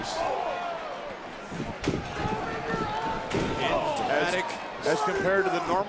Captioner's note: footsteps thumping